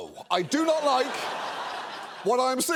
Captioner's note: studio audience laughing